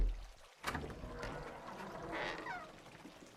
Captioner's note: door opens